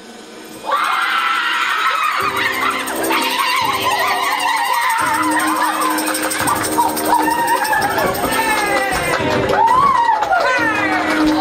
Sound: wild shouting, applause, circus music

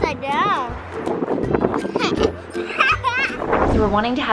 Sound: laughs

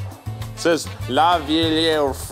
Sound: speaking in French

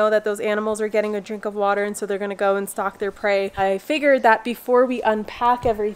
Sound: none

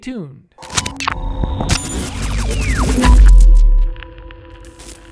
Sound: computerized static

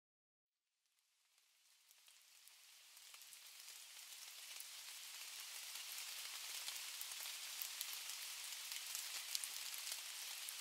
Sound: rain showers pattering garden hydrangea and fuchsias

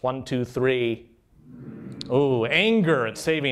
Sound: humming

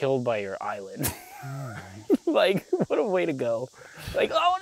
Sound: laughs

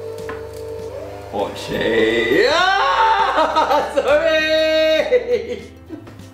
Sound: laughs

